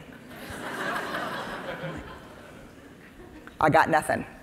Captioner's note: audience laughing